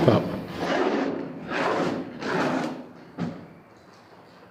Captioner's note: the sound of feet dragging across dusty wood